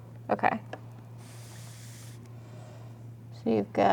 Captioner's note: paper rustling